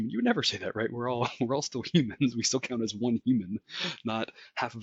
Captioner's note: laugh